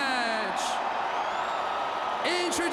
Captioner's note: crowd cheers